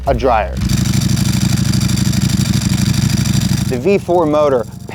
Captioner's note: motor running